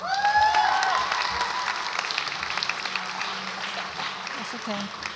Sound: audience applauds and cheers

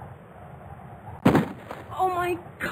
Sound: gun shot

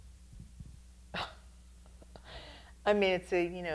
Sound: laughing

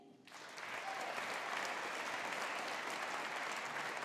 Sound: audience applauding

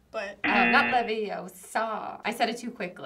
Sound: buzzer rings

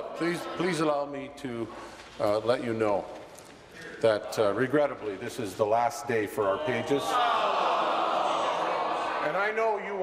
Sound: chorus of no's

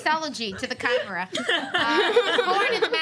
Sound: laughter

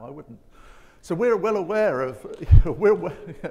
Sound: chuckling

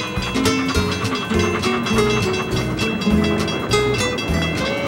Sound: bell tolling

